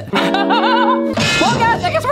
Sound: laughs

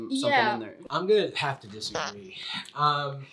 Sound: farts

